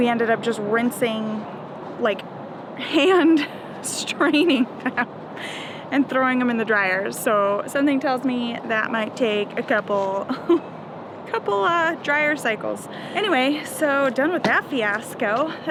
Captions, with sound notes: we ended up just rinsing, like hand straining them, and throwing them in the dryer. So, something tells me that might take a couple, (laughs) a couple dryer cycles. Anyway, so done with that fiasco.